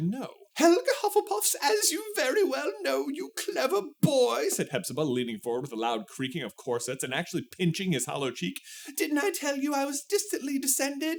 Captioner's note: fussy old lady voice